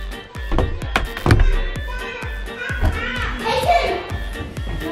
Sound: babbling

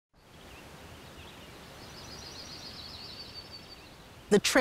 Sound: birds chirping

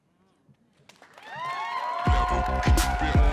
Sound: audience cheering

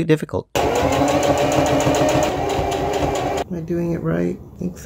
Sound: sound of sewing machine

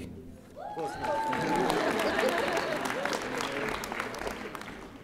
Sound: audience applauding

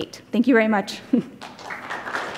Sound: applause

